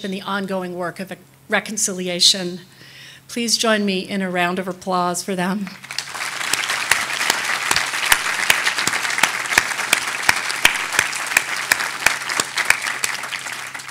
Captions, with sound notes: in the ongoing work of reconciliation. Please join me in a round of applause for them. (audience applauding)